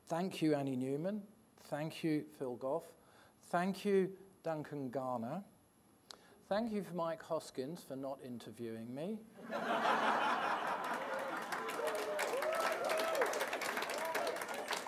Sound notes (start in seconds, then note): 9.4 audience laughing; 10.0 audience applauds